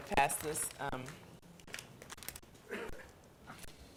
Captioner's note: paper crinkling